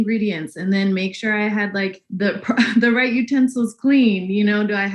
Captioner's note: laughs